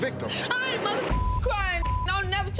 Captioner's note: beep